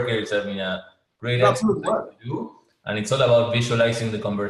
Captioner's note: sound interference